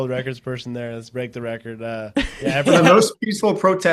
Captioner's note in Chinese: 笑声